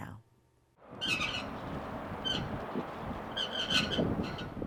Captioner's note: squeaky sign swaying